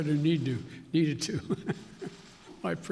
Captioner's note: laughter